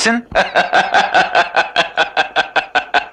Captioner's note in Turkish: Kahkahalar